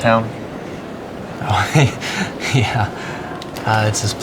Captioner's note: chuckles